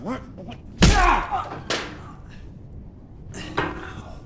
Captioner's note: punch smacking; David grunting